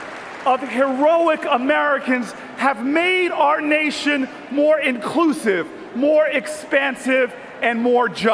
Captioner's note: cheers and Applause